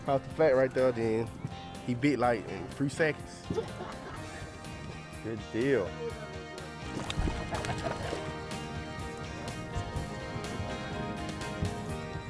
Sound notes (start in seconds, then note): 6.7 water splashing; 9.1 upbeat country music